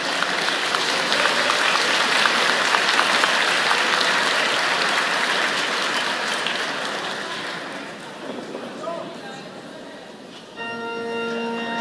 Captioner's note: applause